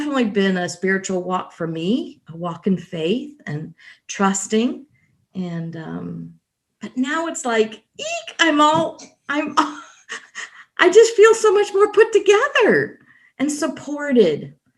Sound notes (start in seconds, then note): 9.5 laughs